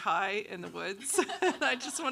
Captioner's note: laughs